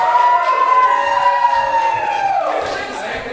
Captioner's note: audience cheers